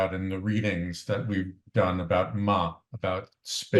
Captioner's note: non-english